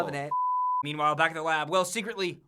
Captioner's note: beep